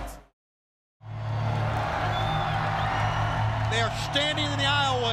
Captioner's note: crowd cheering